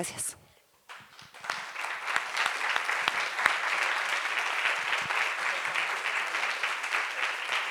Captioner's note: applause